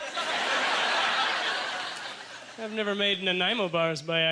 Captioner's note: audience laughter